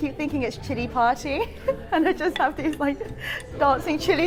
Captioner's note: laughs